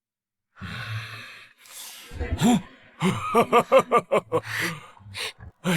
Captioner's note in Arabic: هسهسة، هاهاها